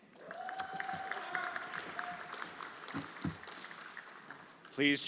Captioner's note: everyone applauding